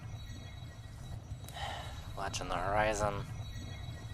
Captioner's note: sigh